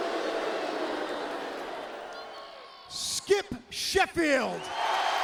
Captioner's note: crowd cheering